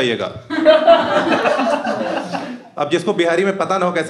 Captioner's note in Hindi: हँसना